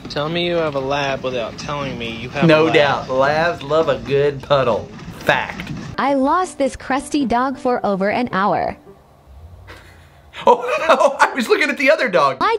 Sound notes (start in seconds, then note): 6.2 Robotic voice; 9.6 laughs